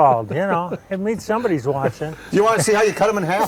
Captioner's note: laughs